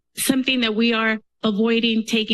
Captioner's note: none